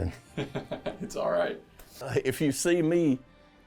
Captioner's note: laughs